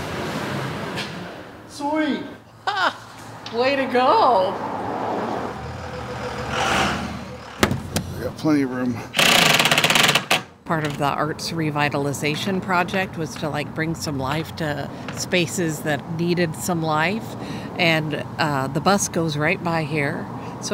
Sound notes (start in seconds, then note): 5.0 truck engine whirls; 9.1 power tool drills